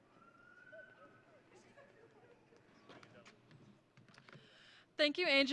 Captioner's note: people chattering and chuckling